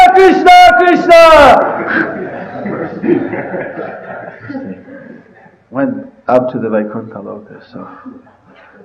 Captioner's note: laughter